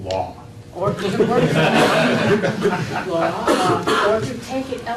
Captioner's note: laughter